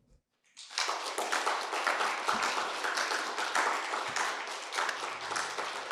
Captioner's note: audience applauding